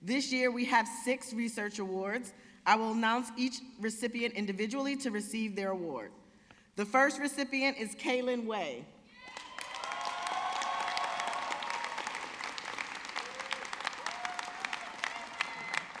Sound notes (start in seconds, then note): 9.2 audience cheering